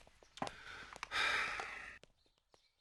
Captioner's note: sighs